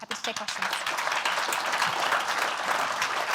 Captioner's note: applause